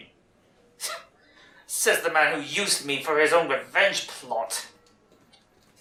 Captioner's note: scoffing